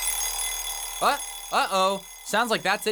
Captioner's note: ring